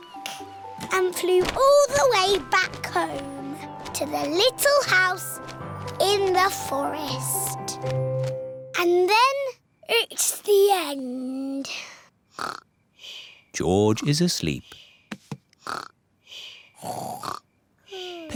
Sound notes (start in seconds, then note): 11.9 snores; 16.8 snores